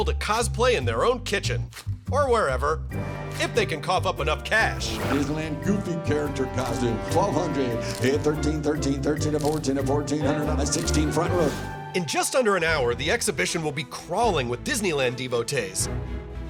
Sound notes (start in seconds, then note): 6.7 auctioneer calling